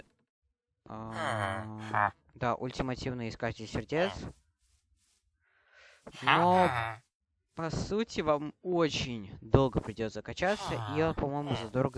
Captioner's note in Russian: фыркает